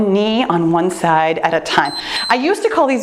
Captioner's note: timer beeps